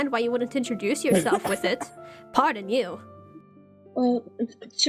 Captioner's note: STONE coughs